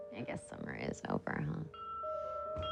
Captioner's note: les cloches sonnent